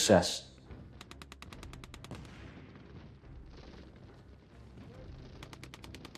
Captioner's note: distant gunfire